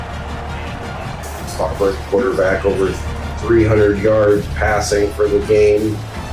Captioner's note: crowd Noises